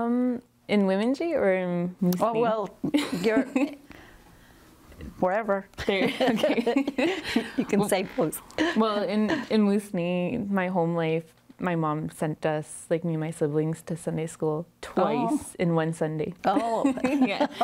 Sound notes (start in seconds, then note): 8.4 laughs; 16.6 laughs